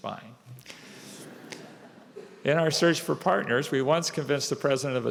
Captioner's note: laughter